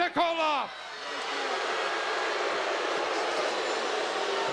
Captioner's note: crowd jeering